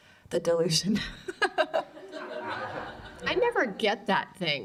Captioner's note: laughter